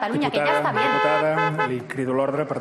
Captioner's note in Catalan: clàxon